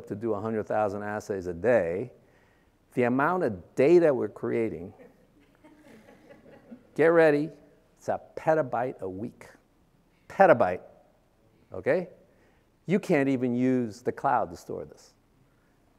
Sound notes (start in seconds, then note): 5.5 audience laughing